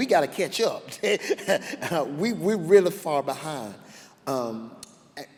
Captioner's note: laughs